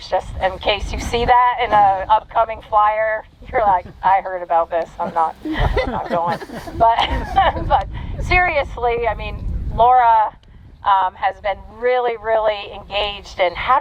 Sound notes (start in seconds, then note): 4.9 laughs; 5.0 audience chuckling